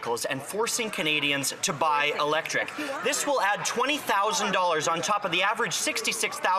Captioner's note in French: voix de l'interprète